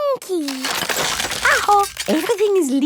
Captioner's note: house creaking